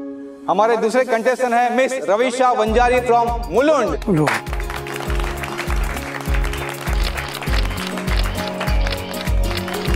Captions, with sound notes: Our second contestant is Mr Ravisha Vanjari from Mulund. Mulund. [clapping]